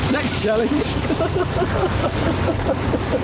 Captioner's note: they laugh